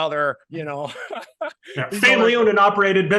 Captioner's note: laughing